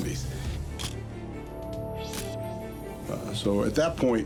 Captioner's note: camera shutter click